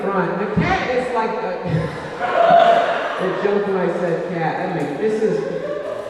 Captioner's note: laughs